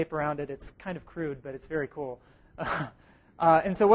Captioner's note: chuckle